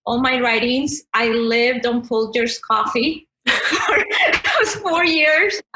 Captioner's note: laughs